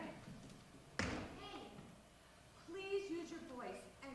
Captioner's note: stomps foot